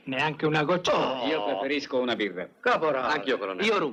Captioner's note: scoffs